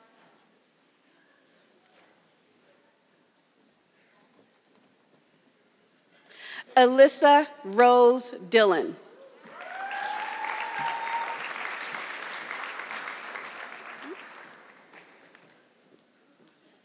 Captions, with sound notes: Alissa Rose Dylan. (audience clapping)